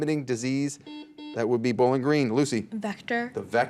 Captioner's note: buzzer beeps